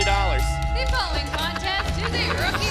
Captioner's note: bell ringing